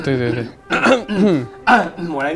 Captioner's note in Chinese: 清喉嚨聲